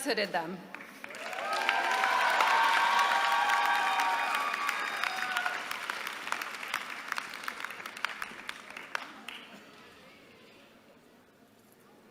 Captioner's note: applause